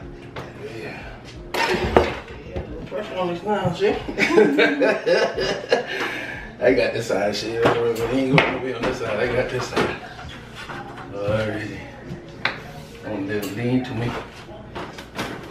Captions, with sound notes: - Yeah. Little pressure on this now. (both laugh) I got this side, so you don't even have to be on this side. I got this side. Lean to me.